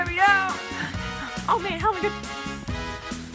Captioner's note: panting